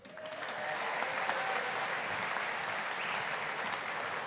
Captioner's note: audience applauding